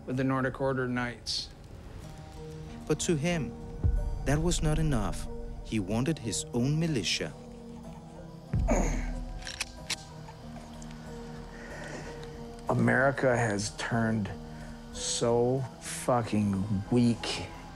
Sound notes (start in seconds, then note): 8.6 clears throat; 9.2 gun clinks